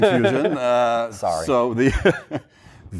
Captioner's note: laughter